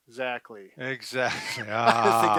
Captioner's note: both laughing